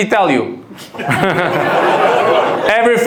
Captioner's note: audience laughs